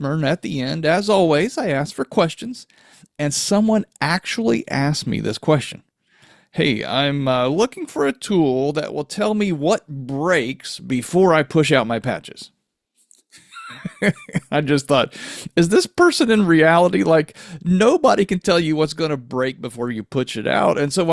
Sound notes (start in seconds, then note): 13.3 laughs